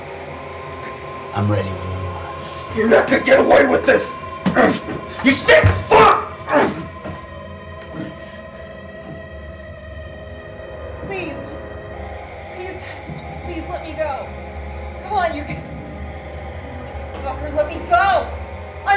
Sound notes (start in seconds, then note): 4.4 grunts; 6.8 tense music